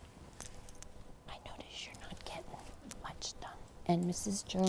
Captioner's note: whispering